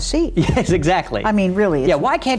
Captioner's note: laughs